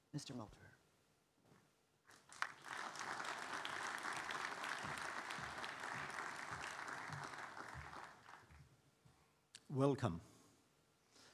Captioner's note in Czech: Potlesk